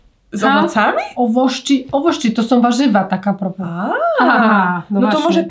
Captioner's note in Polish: rosyjski